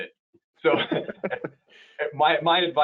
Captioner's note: laughing